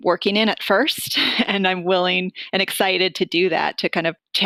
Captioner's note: giggling